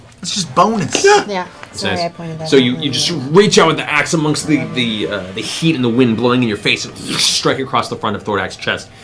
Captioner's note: wind blows